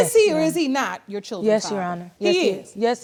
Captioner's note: none